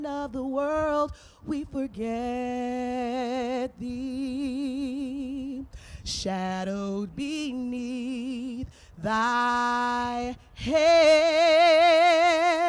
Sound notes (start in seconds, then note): none